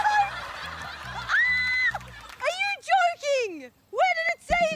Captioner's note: screams